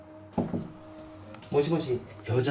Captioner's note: knock